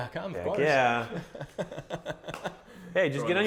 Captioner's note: laughs